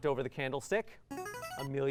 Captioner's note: buzzer